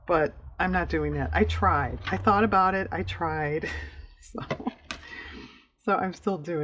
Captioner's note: laughs